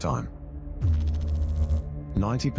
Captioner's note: electrical noise